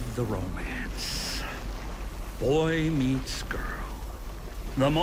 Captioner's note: waves lapping